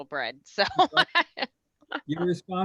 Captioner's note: laughing